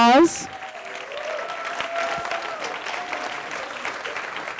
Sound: audience applauding

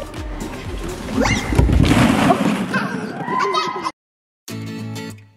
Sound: squeals and clatters into balls; upbeat music

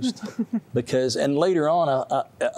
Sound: giggling

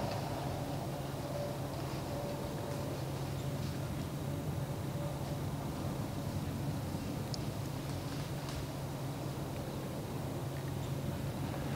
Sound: footsteps heard

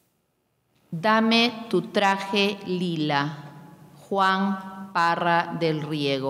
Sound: speaking in a foreign language

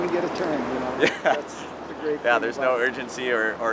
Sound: laughs

